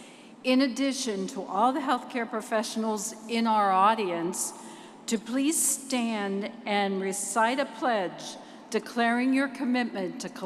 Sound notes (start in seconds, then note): none